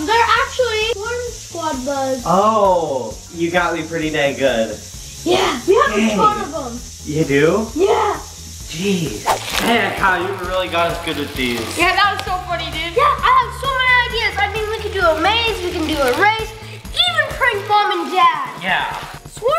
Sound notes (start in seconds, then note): 9.2 comic whoosh; 9.3 bug wheels spinning